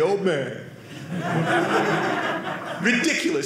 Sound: audience laughing

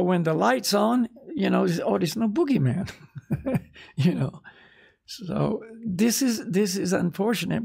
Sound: laughs

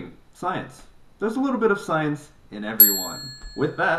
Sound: bell dings

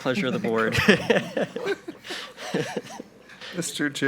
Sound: board members laughing

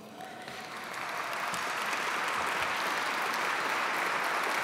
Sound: audience clapping

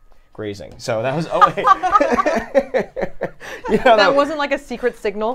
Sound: everyone laughs

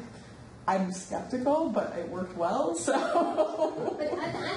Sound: laughs

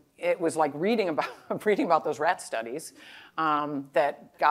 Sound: laughter

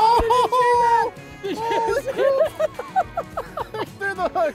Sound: laughs

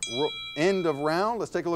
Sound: bell dings

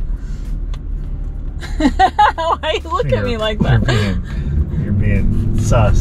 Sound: laughing

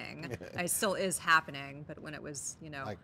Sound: chuckles

